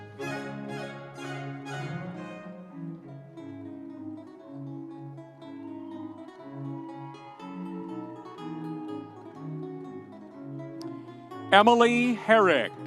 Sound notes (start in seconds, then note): 0.0 audience applauding; 0.0 energetic music continues; 5.4 audience cheering